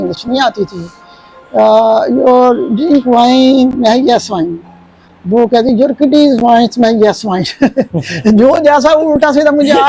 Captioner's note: laughter